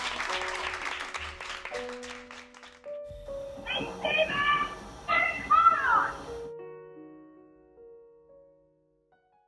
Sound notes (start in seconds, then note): 0.0 bright music; 3.3 train rattling